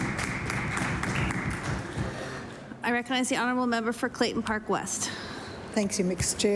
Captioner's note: applause